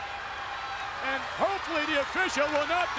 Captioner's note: audience cheering